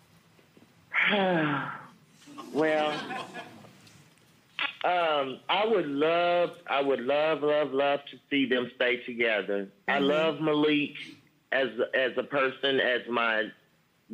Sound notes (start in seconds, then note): 1.0 sighing; 2.3 audience laughing